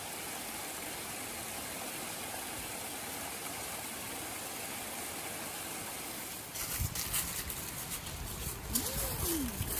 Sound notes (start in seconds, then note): 0.0 rush of the waterfall; 6.5 crunch of leaves